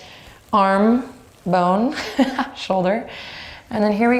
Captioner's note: laughs